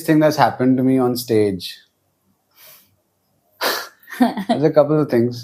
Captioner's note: laughs